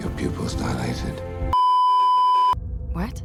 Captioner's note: beeeeeeeeeeeep